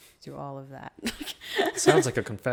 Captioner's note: laughs